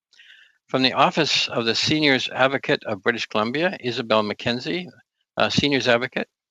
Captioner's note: speaking French